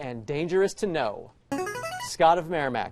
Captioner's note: buzzer